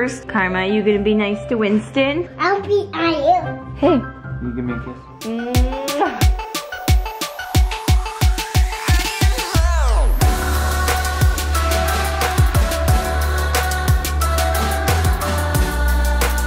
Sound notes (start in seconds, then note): 5.6 kiss sound; 7.3 upbeat music